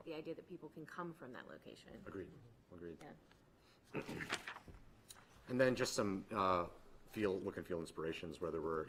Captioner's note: clears throat